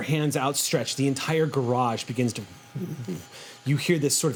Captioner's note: vibrates